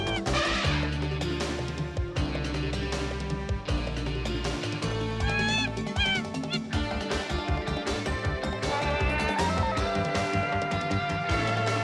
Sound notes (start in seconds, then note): 0.0 chimpanzee yelling; 0.0 elephant trumpeting; 5.2 chimpanzee yelling; 9.1 yodeling